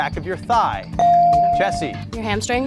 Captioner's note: bell rings